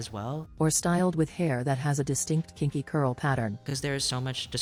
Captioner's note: robot voice